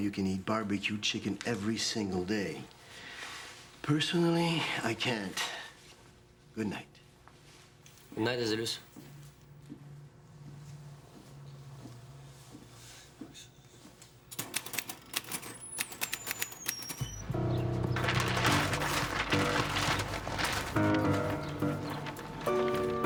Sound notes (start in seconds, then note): 11.7 footsteps shuffle; 14.3 typewriter keys clack; 15.5 door creaks; 17.0 tense music; 17.9 papers rustle